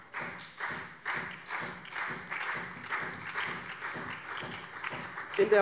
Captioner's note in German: Beifall CDU, SPD und BÜNDNIS 90/DIE GRÜNEN